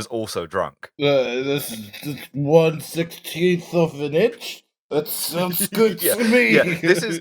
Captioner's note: drunk voice; laughter